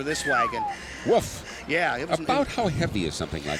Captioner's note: whistles